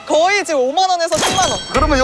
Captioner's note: jingle-jangle